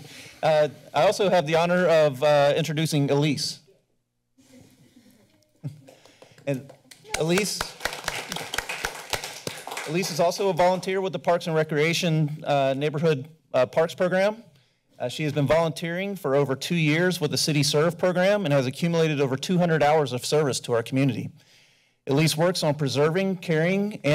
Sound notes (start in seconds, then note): 5.8 applause